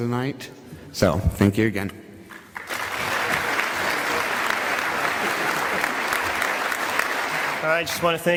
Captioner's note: applause